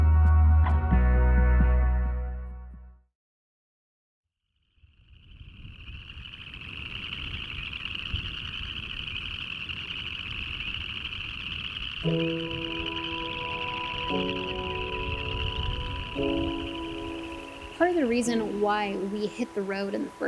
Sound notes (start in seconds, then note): 6.0 crickets chirping; 12.0 calm music